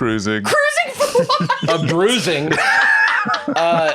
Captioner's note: laughs